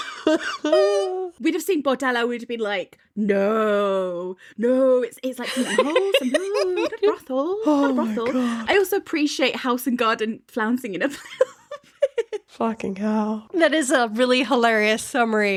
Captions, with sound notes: (laughing) We'd have seen bordello, we'd have been like, no, no. (laughing) Oh my God. I also appreciate House and Garden (laughing) Fucking helll. That is a really hilarious summary.